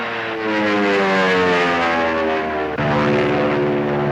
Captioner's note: airplane buzzing